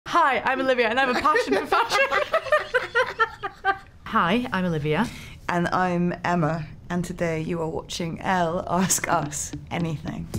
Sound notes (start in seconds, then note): 1.2 Olivia and Emma laugh